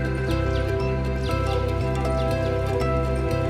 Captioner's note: birds chirping